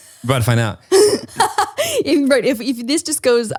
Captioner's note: laughs